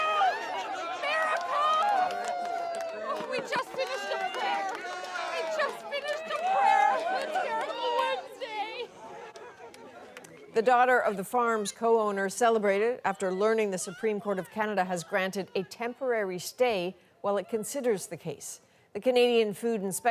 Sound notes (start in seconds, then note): 4.9 applause